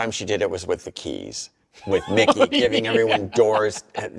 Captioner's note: laughs